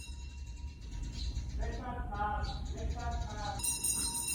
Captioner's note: rings